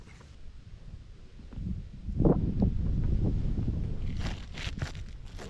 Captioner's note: wind blowing